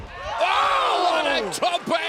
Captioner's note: commentators exclaim